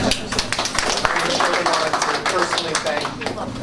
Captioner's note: applause